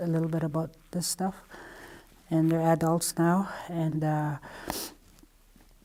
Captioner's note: she sniffs